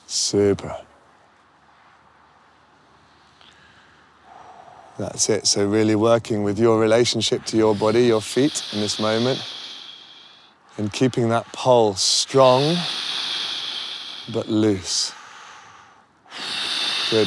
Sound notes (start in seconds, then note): 2.9 slow breath; 11.8 loud exhale; 15.4 breathing intensifies